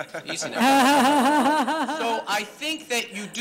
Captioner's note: laughter